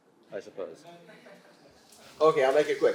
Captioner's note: audience laughing